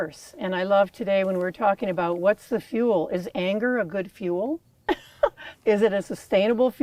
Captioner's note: laughs